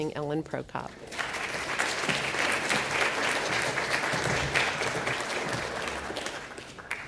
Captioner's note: applause